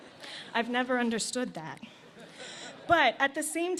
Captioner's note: laughter